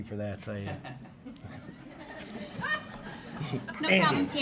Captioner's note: laughing